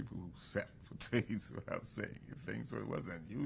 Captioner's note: laughs